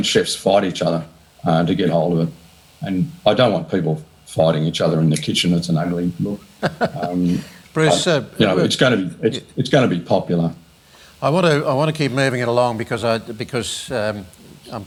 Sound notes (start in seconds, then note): 6.5 laughs